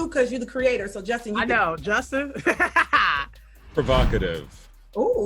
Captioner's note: laughs